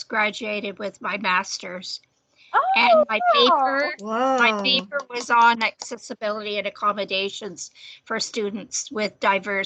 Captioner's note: clapping in background